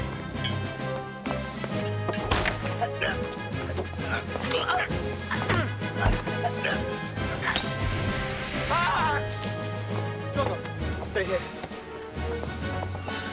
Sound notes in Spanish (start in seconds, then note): 0.1 música emocionante; 2.8 Athelston gimiendo; 7.6 tintineo de vidrio